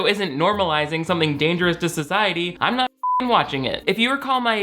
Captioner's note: beep